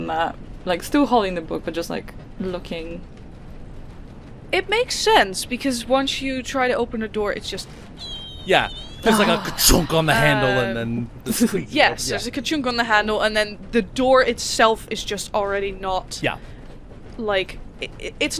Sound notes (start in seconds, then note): 8.0 squeaks